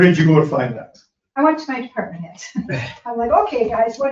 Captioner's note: chuckles